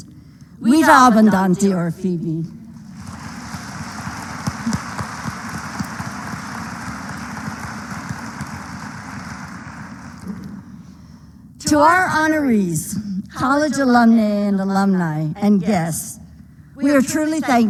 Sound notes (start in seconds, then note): 2.8 applause